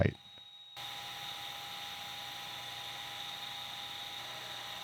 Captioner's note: machine whirring